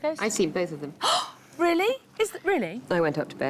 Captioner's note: gasps